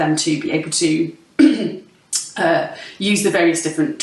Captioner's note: clears throat